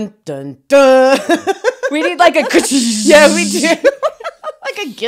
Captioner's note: imitates sound of drumsticks pummeling